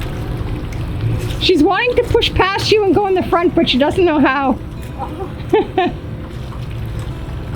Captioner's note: laughs